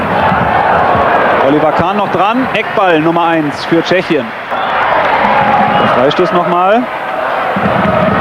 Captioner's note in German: jubel